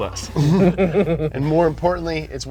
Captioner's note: both laughing